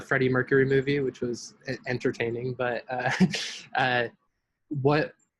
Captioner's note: laughs